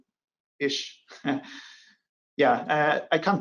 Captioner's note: chuckles